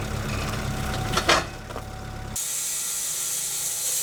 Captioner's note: metal clanks; saw whirring